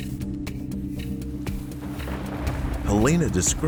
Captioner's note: dramatic music; rain pattering; thunder rumbling